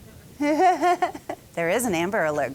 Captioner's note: laughing